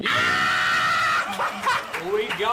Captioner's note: screaming